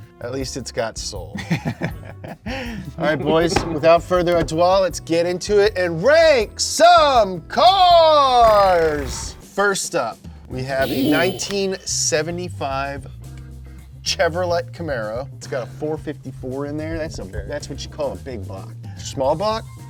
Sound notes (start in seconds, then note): 2.2 laughing; 8.4 imitating drum rolls; 8.4 air whooshing